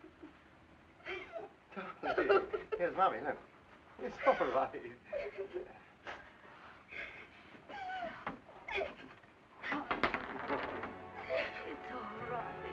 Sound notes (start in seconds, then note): 1.0 child whimpering; 7.7 child whimpering